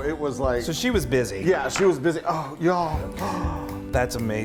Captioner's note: gasping